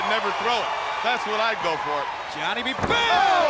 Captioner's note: body thudding